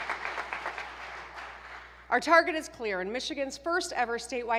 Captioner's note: applause